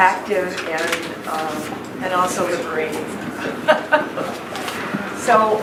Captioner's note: laughs